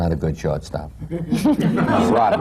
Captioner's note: laughter